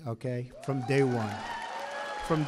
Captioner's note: applause